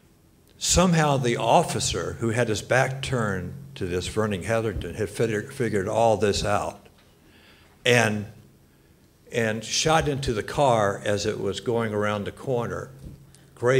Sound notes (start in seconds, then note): none